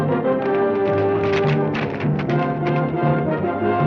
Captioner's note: hooves clack